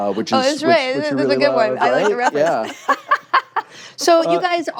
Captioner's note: laughter